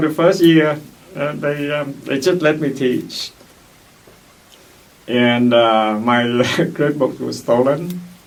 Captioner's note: laughs; laughs